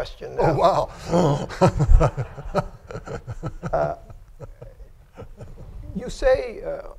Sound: laughter

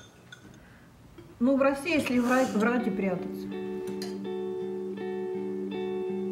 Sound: speaking in foreign language

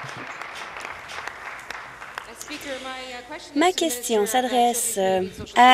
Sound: applause

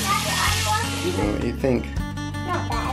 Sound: children chattering indistinctly in the background

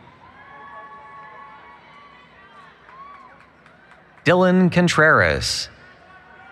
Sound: applause, Cheering

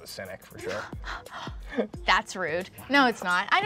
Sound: chuckles

